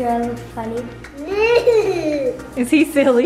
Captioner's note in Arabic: ضحك